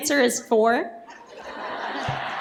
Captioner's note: laughter